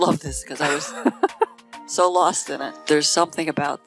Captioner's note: laughing